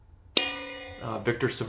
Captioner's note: bell dings